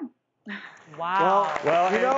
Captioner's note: clapping